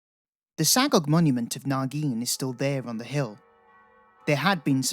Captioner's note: bells ring